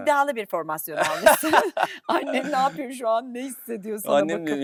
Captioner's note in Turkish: kahkaha